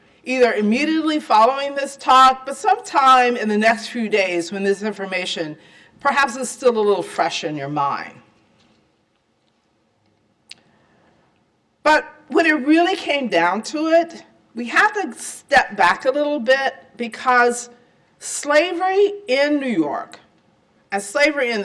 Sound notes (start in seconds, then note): 8.3 silence